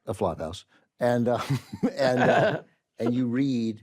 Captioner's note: chuckles; carol laughs